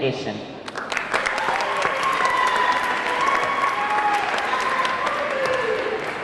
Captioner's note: audience clapping; audience cheering